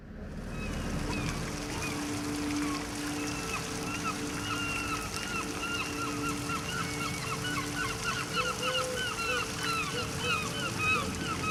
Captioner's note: sounds of Seagulls and a trickling fountain